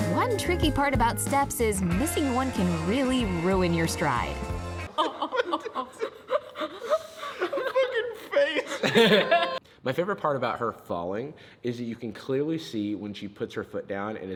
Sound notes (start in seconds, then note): 4.8 group laughs; 9.0 chuckles